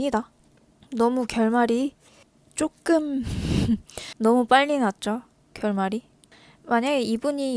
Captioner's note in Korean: 콧방귀